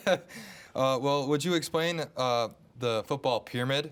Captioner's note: laughing